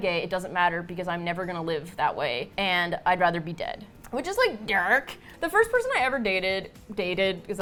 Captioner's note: hoarsely